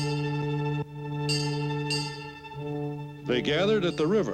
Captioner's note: ship bells chime